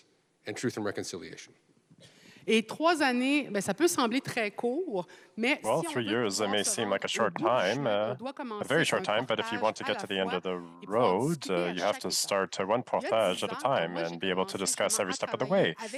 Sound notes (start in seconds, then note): 3.0 speaking French